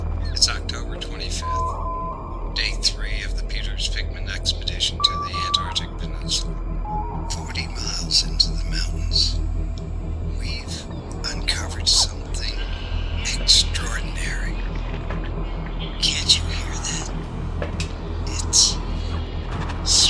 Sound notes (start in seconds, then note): 0.0 monitor whirring; 0.0 tense music; 14.3 tentacles squelching